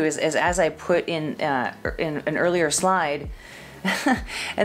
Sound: chuckles

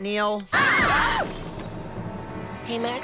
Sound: screaming and smashing of dishes

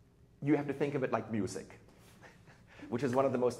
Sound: chuckles

